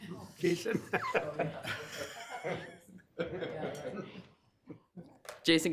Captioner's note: laughter